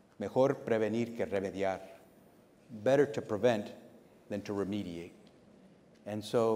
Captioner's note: speaking Spanish